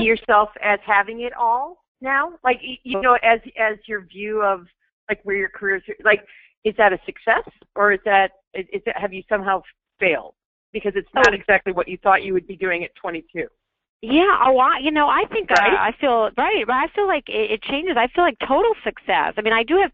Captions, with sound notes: do you see yourself as having it all now? Like you know, as your view of, like where your career is, like is that a success? Or have you somehow failed? Because it's not exactly what you thought you would be doing at 22? - [Voiceover] Yeah, you know, I feel like it changes, I feel like total success, I mean, I do have people